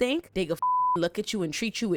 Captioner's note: beep